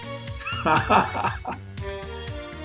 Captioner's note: laughs